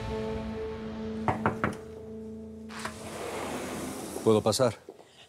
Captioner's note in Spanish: toques en la puerta